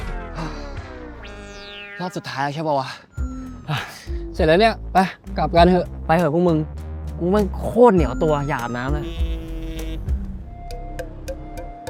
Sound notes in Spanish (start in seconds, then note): 9.0 teléfono vibrando